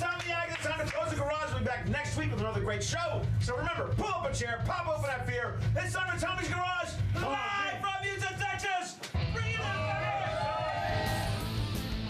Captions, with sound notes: - I'M TOMMY ADKINS. TIME TO CLOSE THE GARAGE. WE'LL BE BACK NEXT WEEK WITH ANOTHER GREAT SHOW. SO REMEMBER, PULL UP A CHAIR, POP OPEN THAT BEER, IT'S TIME FOR TOMMY'S GARAGE, LIVE FROM HOUSTON, TEXAS! BRING IN THAT, BABY! [Audience cheers]